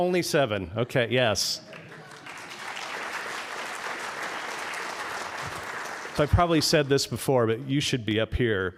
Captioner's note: applause